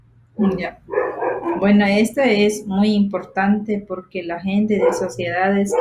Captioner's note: speaking foreign language